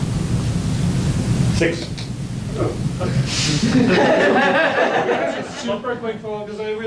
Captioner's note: audience laughs